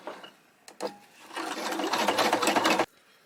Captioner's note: sewing machine churns